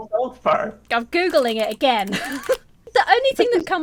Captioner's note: laughs